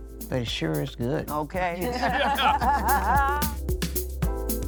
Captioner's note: everyone laughing